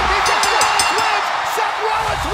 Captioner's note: bell dinging; crowd cheering